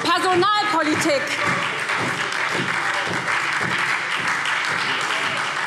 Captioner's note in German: Beifall SPD - Lebhafte Zurufe CDU